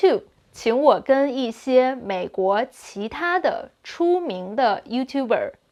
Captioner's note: speaking in Mandarin